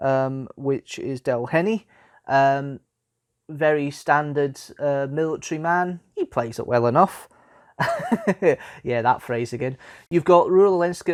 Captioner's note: laughs